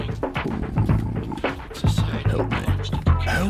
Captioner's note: dunce groan